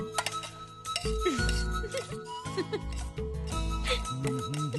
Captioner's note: chuckling